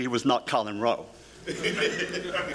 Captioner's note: laughter